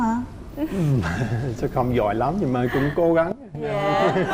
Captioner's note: laughing and applause